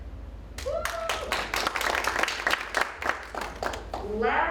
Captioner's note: audience applauds